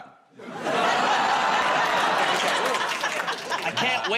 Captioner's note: audience groans